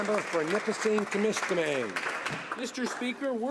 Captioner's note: applause